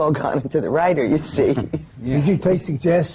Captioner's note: laughs